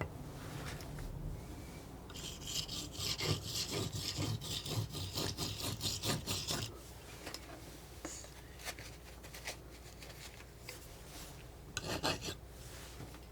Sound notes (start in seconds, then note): 0.1 scratching